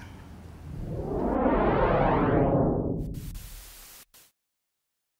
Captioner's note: swishing sounds